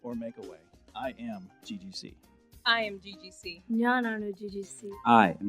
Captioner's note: in Malayalam